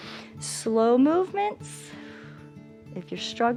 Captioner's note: exhales; inhales